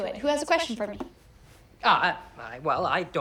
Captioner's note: stuttering